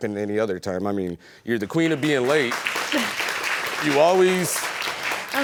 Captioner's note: chuckles